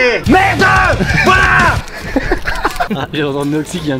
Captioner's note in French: rires